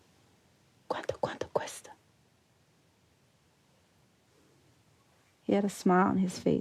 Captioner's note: speaking foreign language